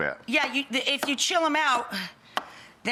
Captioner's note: none